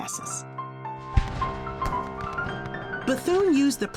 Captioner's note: cannon booming